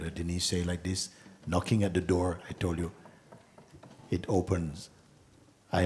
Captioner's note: Mooji knocks